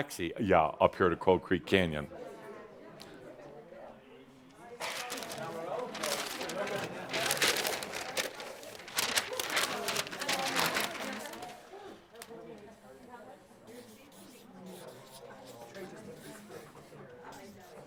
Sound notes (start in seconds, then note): 3.0 people start chattering as the drinks are handed out